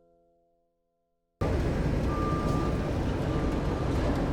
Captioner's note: city noises